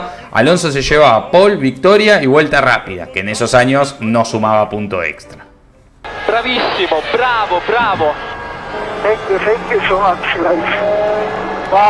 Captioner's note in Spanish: radio